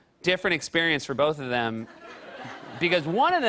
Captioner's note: laughter